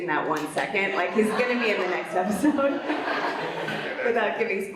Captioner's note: laughs